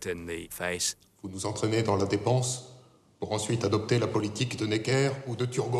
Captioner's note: men speaking in French